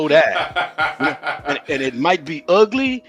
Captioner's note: laughing